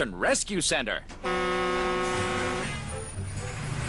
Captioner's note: honks horn